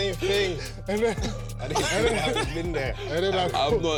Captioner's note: laughter